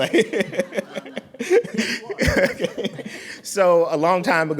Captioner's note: laughing